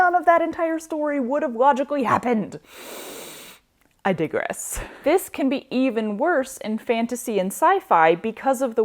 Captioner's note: inhale of calming